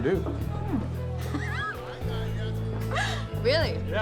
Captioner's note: laughing